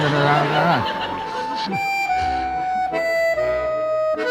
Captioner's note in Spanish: multitud ríe